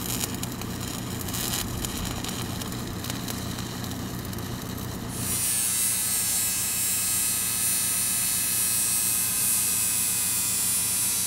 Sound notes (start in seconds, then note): 5.0 grinder whirring